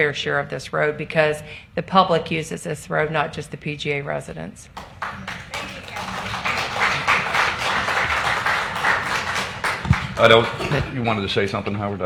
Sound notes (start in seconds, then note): 7.4 applause